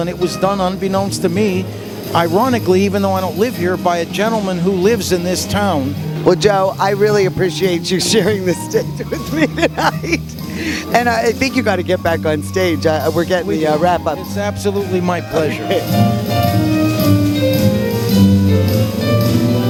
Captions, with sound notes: and it was done unbeknownst to me, ironically, even though I don't live here by a gentleman who lives in this town. - Well, Joe, I really appreciate you showing this stint (laughs) with me tonight! And I think you gotta get back on stage, wrap up-- - It's absolutely my pleasure. (relaxing jazz music)